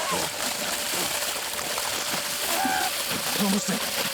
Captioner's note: water splashing; Grant yells